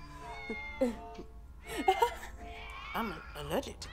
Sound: cat's meowing

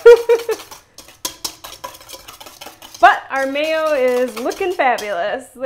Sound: laughter

